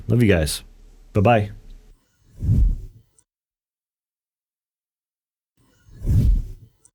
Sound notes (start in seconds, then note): 5.9 air whooshing